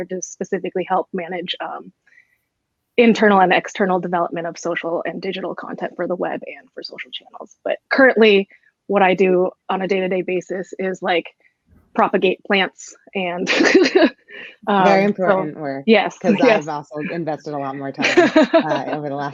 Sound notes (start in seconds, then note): 13.5 laughs